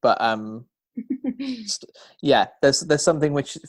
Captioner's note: laughter